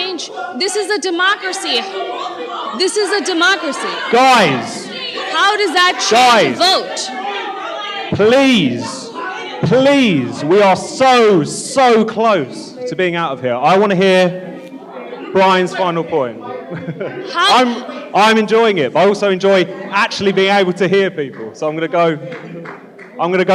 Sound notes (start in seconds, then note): 4.3 shouting; 6.4 shouting; 9.8 shouting